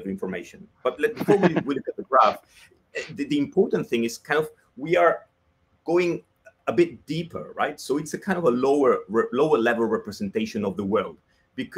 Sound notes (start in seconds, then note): 0.9 laughs